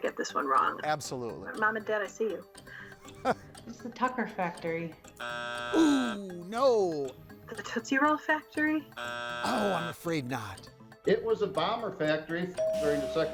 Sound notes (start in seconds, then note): 3.0 chuckles; 5.2 buzzer drones; 8.9 buzzer drones; 12.6 bell dings